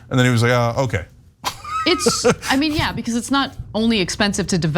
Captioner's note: laugh